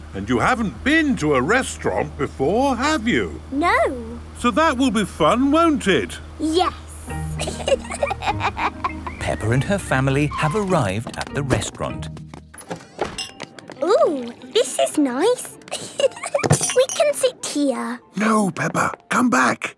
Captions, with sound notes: - And you haven't been to a restaurant before, have you? - No. - So that will be fun, won't it? - Yes. - (both laughing) - Peppa and her family have arrived at the restaurant. - (lounge music) - Ooh! This is nice! We can sit here! - No, Peppa! Come back!